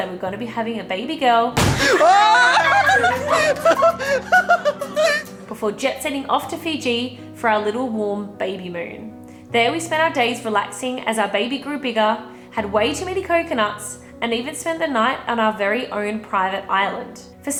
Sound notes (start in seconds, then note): 1.6 explosion; 1.7 yelling; 1.8 laughing